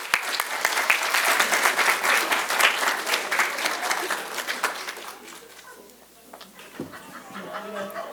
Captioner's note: audience Applause